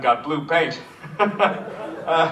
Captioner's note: Cave chuckles